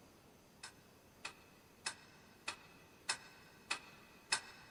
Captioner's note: clock ticking